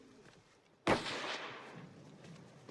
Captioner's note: gunshot